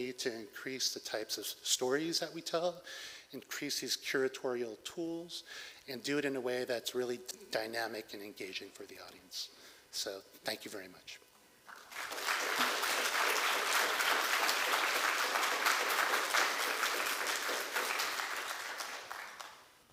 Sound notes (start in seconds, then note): 11.7 applause